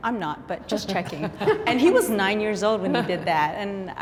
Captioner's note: parents laugh